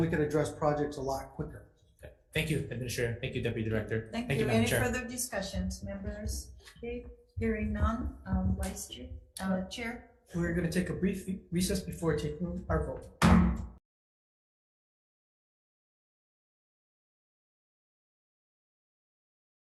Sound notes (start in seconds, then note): 13.2 gavel bangs